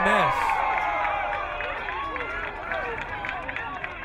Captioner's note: crowd cheering